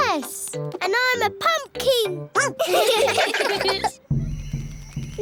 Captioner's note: all giggling; barks